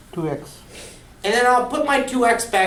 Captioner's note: voiceover